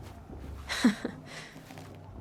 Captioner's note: laughs